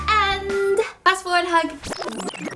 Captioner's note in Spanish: Efecto de sonido de desaceleración de toca discos